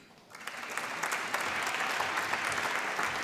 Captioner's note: applause